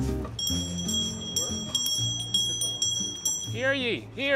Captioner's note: hand bell rings